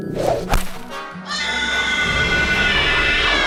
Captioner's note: cries